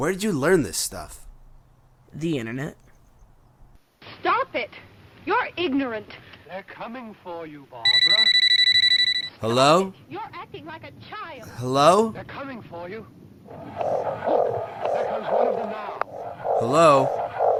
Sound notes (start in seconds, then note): 7.8 phone rings; 15.4 distorted noise